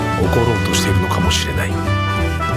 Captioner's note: Japonês - mantido no original